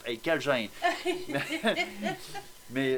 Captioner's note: laugh